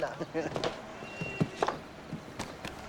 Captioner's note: both laugh